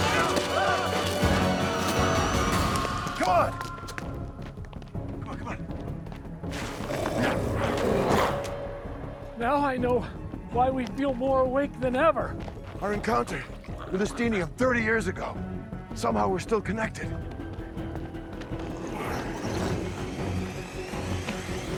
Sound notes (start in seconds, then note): 1.1 dramatic music continues; 6.5 glowzies growling; 19.0 intense music